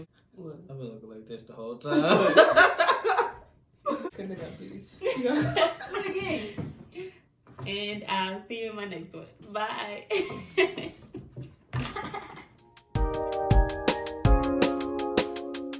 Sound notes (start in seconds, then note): 11.8 mocks laugh; 12.7 theme music